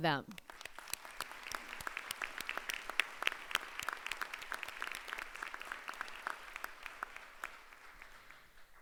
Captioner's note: applause